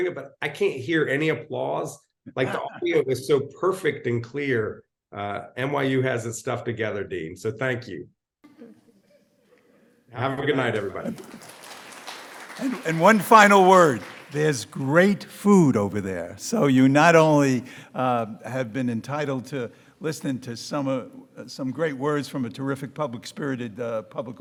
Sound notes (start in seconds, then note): 10.7 audience applauding